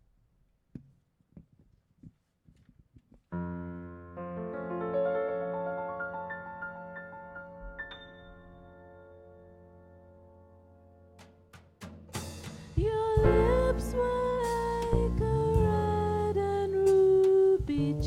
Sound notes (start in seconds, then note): 1.2 object rustling; 3.4 soft music playing